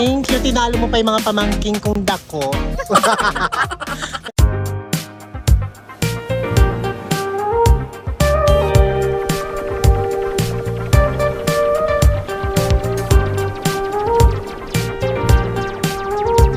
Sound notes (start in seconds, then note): 2.7 laughing; 2.8 laughing SFX